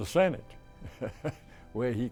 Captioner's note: chuckles